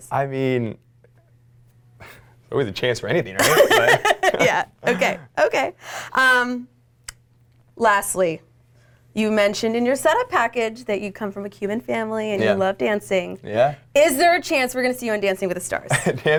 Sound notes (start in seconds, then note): 3.4 laughing